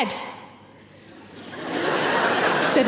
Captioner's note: audience laughing